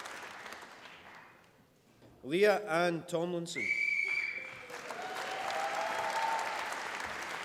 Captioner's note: applause